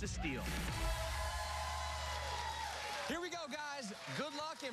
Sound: cheers and applause

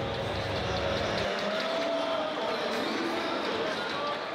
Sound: people cheering

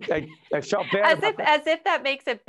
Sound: laughing

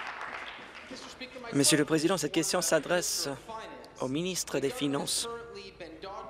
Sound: applause

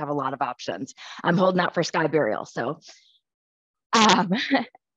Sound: laughs

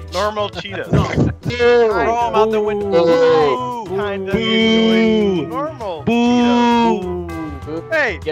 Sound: they're all booing the idea

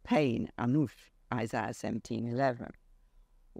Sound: speaks foreign language

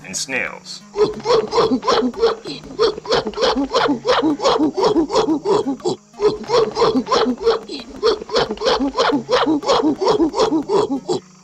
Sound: hooting excitingly

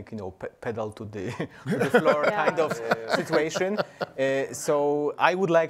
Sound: panelists laugh

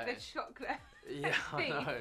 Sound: laughs

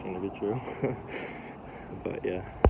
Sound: snickers

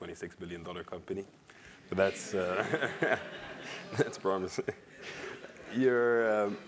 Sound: laugh

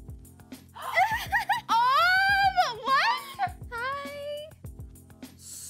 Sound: gasps

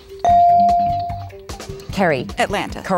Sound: dinging

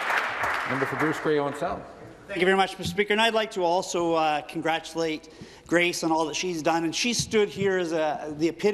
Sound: applause

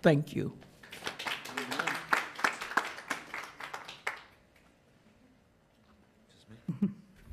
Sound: attendees clapping

